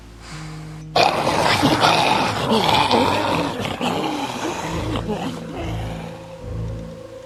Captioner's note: groaning Comes Closer